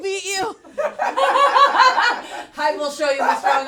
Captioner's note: laughter